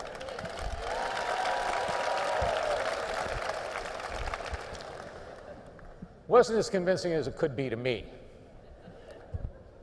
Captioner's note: applause